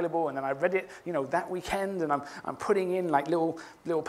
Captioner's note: none